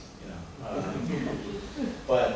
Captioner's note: laughter